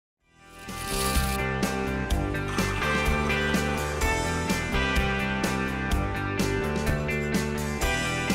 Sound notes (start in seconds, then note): 0.9 upbeat music; 2.4 coffee machine pouring